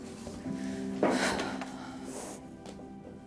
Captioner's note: mother sighs